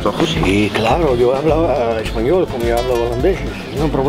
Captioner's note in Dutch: Spaans gebrabbel